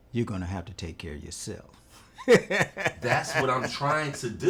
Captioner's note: laughing